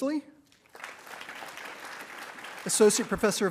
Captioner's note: attendees applauding